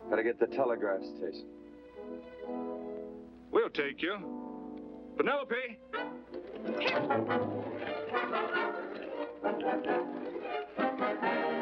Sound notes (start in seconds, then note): 7.3 reigns snapping